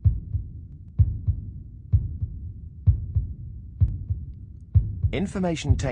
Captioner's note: heartbeat